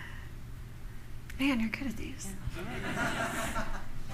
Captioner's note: laughter